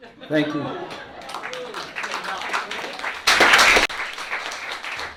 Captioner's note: laughter, applause